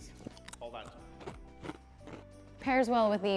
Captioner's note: crunching